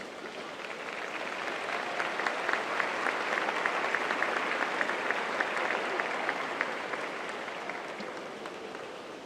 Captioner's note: applause